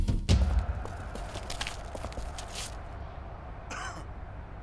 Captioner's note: street sounds; music stops